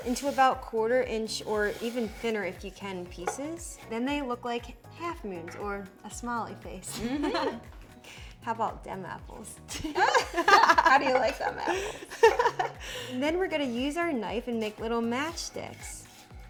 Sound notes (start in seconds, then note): 7.0 laughing; 9.6 laughing; 10.0 chuckling